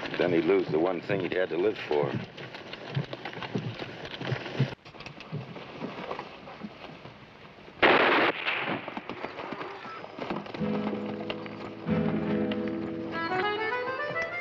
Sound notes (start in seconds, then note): 7.8 gunshot bangs; 10.6 tense music